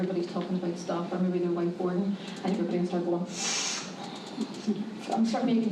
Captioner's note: scoff